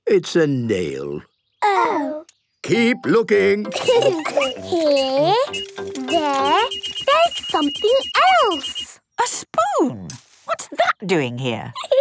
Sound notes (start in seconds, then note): 3.7 laughter; 6.7 beeping